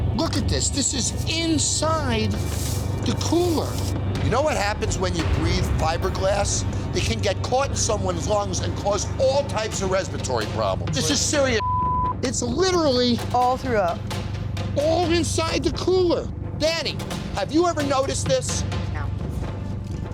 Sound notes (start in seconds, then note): 11.6 beep